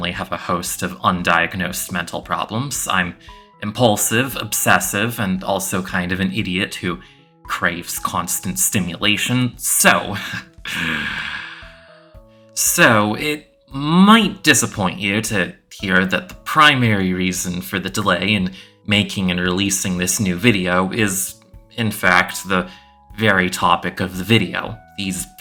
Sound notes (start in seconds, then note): 10.2 sighs